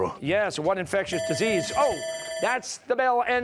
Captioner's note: bell ringing